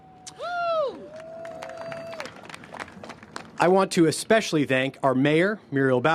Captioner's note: cheers and applause